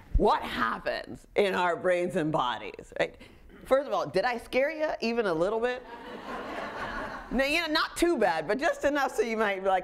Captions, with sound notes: What happens in our brains and bodies? First of all, did I scare you even a little bit? (audience laughing) Not too bad, but just enough so you might be like: